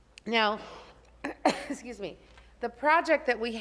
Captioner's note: coughs